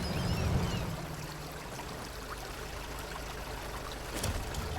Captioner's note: river rushing